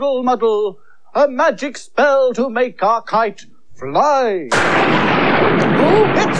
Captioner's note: sound Of Thunder